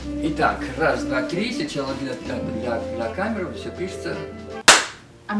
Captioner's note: clap